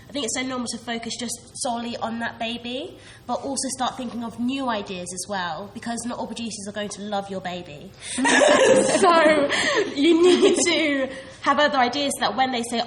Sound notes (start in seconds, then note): 8.1 laughs